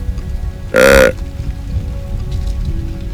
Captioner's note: sound of grunt call